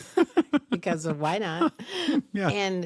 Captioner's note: laughter